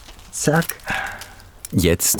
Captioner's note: he sighs